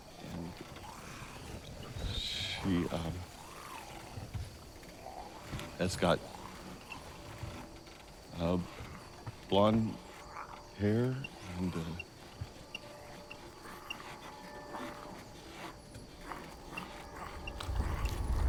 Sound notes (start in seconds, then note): 12.4 grumbling